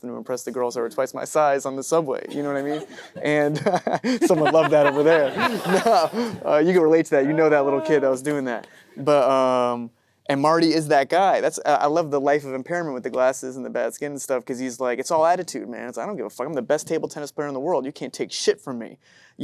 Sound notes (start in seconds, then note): 2.3 laughs; 2.4 audience member laughing; 5.4 everyone laughing